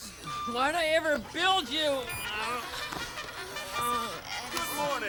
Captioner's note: alarm clock plays bugle charge